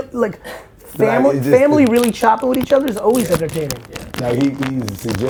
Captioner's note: chains drown out speaker